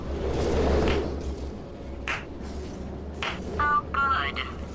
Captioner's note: clap clap clap